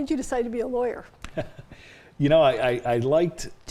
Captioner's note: chuckles